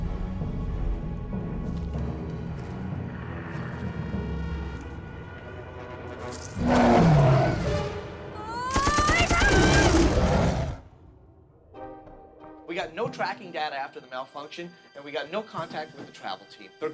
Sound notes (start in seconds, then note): 6.5 roaring; 8.4 screaming and gunfire